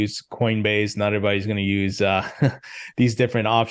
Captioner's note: chuckles